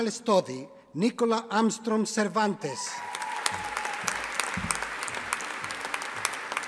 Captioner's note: audience applauding